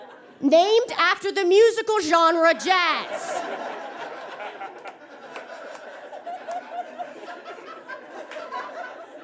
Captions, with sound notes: named after the musical genre jazz! (audience laughs) (laughter continues percolating)